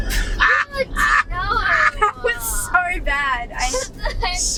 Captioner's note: laughing